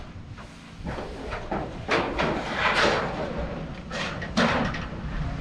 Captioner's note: roofing sheets clanking